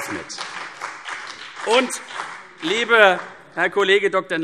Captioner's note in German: Beifall CDU und BÜNDNIS 90/DIE GRÜNEN